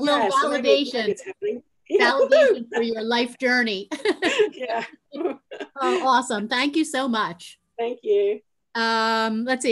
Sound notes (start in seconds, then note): 4.0 laughing